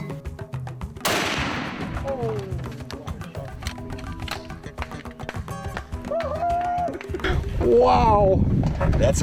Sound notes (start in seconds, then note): 1.0 gun firing; 6.1 cheering